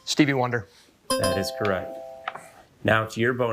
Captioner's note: bell ringing; buzzer ringing